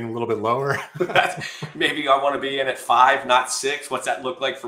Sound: laughs

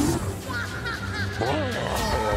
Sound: video game sounds

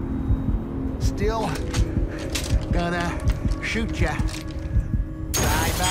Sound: tense music; cocking gun; gunshots

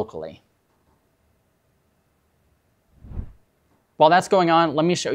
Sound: screen whooshes

